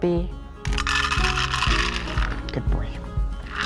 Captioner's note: dog food rattling